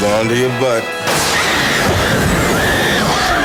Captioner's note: people screaming; woman screams; dinosaur roars